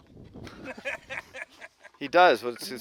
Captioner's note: laughing